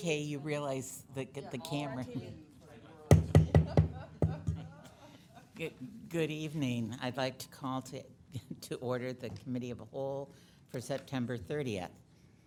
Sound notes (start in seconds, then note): 3.1 gavel banging; 3.5 woman laughs